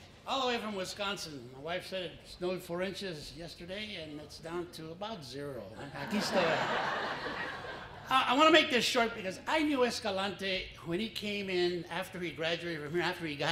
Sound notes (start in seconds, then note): 5.8 laughter